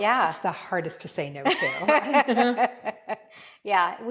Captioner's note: laughing